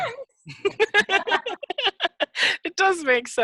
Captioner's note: laughing